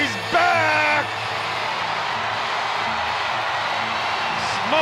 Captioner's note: audience cheers enthusiastically